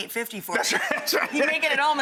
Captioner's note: crowd laughs